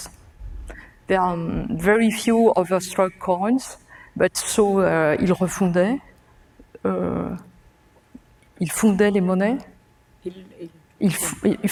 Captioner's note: speaking french